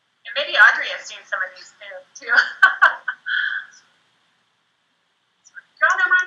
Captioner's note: laughs